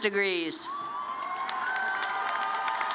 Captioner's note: applause